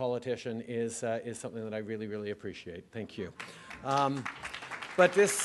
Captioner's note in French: Applaudissements